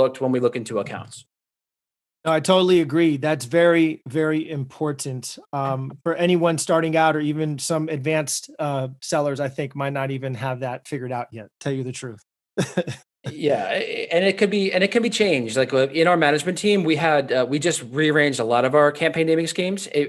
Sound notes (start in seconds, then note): 12.6 chuckles